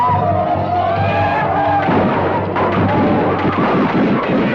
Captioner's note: Apaches howl; guns fire